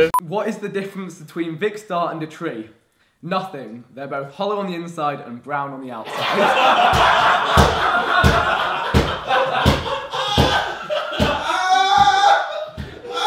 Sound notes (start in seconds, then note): 6.0 everyone laughing